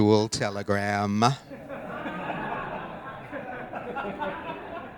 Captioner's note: audience laughing